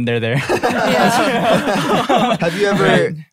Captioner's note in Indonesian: tertawa